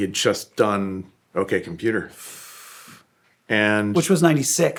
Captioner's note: exhales